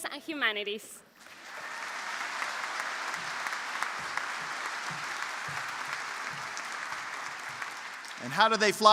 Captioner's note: applause